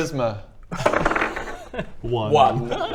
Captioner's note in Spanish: tirada de dados